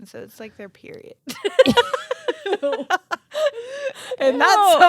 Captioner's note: both laughing